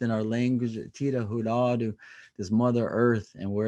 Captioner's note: speaking native language